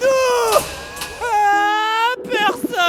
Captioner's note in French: pleurs